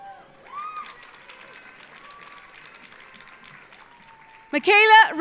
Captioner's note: audience applauding; audience cheering